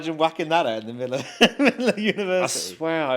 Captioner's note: laughs